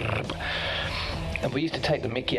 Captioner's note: mouths fast rhythm